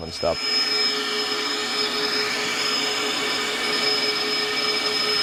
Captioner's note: machine running